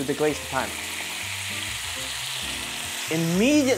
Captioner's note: sizzling sound